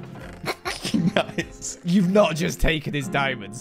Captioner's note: snickering